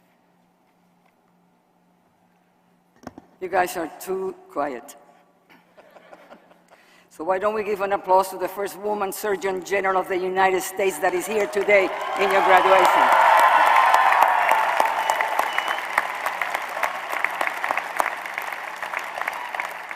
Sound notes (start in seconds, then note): 5.5 laughter; 12.0 applause